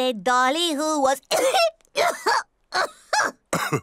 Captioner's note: coughs